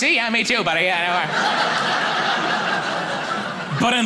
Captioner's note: audience laughing